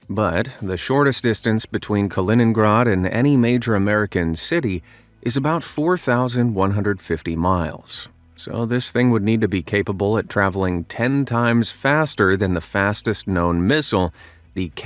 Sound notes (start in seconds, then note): none